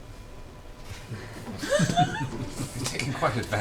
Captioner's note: all laugh